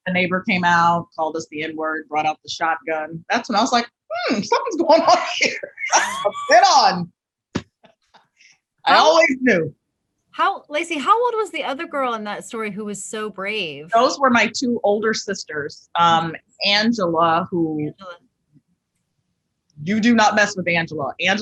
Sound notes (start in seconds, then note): 4.3 both laugh